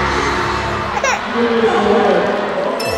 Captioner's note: also cries